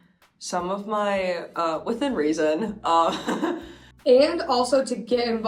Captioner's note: chuckles